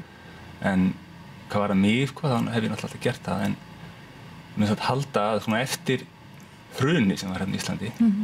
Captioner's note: Icelandic